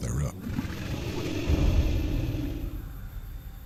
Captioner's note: growls